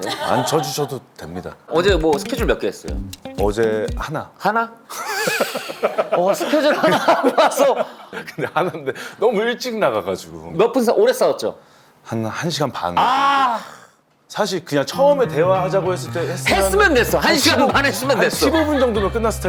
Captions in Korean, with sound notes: 안 쳐주셔도 됩니다... 어제 뭐 스케줄 몇 개 했어요? 어제 하나... ㅎ.. 스케줄 하나 하고 와서... 근데 하난데 너무 일찍 나가가지고 몇 분 싸웠... 오래 싸웠죠? 한 1시간 반 [탄식] 사실 그냥 처음에 대화하자고 했을 때 했으면 - 했으면 됐어 1시간만 했으면 됐어 - 한 15분 정도면 끝났을 텐데